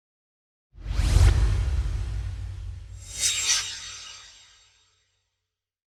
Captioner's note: swoosh